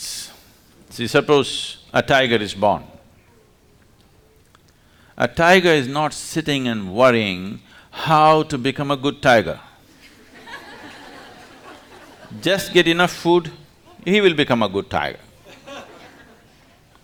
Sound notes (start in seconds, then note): 9.9 laughter